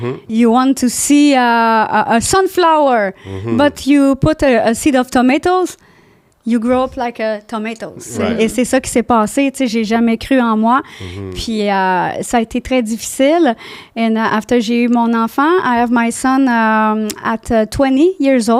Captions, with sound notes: You want to see a sunflower, but you put a seed of tomatoes, you grow up like a tomatoes. - (in french) and thats what happened - (in french) I never believed in myself - (in french) and it was very difficult - (in french) and then I had my child I have my son at 20 years old.